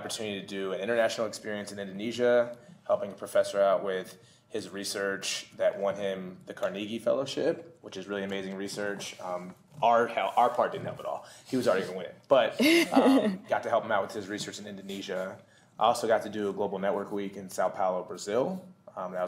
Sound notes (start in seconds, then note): 12.6 laughter